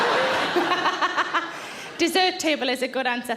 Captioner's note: audience laughs; Sarah laughs